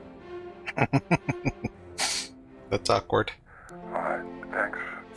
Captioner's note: laughing